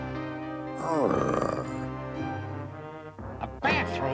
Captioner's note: whimpers